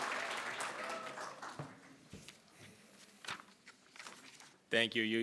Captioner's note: attendees wooing